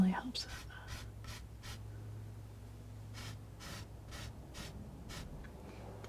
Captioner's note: scratching